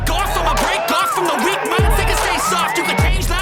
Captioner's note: audience getting more and more excited